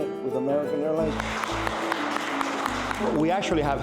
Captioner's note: applause